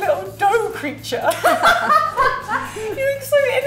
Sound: laughs

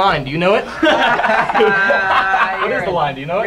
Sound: laughter

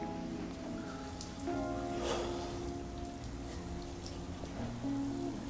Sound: sound of running water

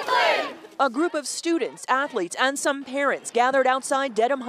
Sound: chanting

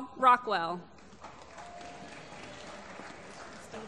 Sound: applause

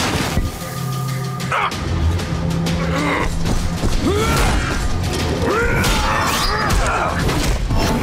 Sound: grunting

